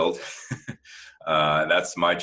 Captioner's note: laugh